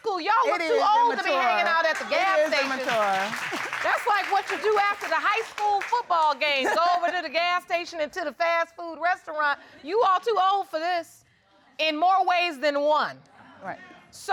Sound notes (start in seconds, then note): 1.2 audience applauding